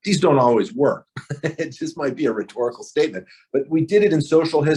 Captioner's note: laughs